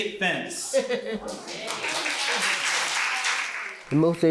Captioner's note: crowd applauds